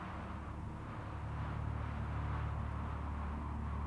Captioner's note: wind whistling